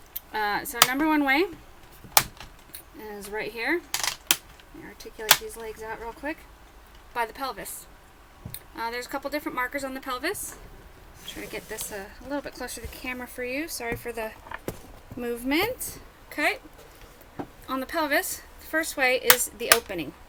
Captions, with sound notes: Uh, so the number one way [clicking sound from movement of skeleton] is right here... [more clicking] Let me articulate these legs out real quick. ... by the pelvis. uh... There are a couple of different markers on the pelvis. Let me try to get this a little bit closer to the camera for you. Sorry for the... movement. Ok. On the pelvis the first way is the opening.